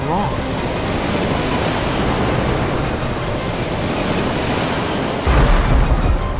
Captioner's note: stormy waves crashing; panic music